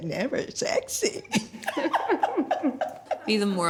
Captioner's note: laughing